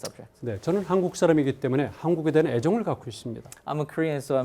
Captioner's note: speaking in Korean